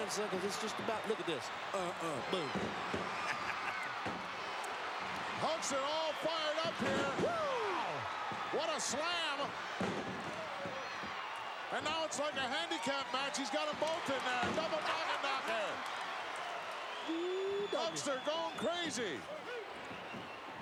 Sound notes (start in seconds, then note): 3.2 laugh; 9.4 applause; 15.9 applause